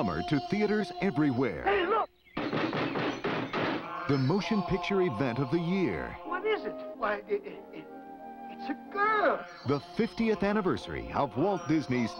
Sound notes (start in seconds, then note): 2.4 narrator reading; 7.9 narrator reading